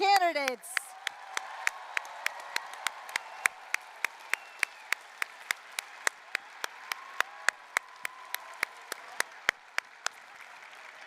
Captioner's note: applause, cheering